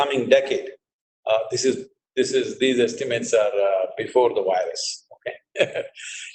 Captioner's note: laughs